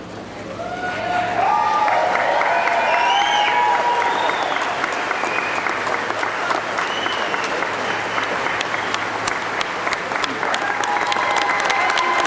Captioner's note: applause